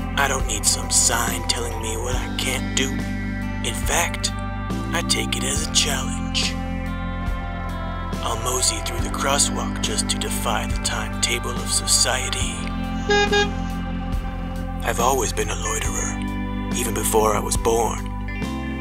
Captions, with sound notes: I don't need some sign telling me what I can't do In fact, I take it as a challenge I'll mosey through the crosswalk just to defy the timetable of society [Horn honks] I've always been a loiterer even before I was born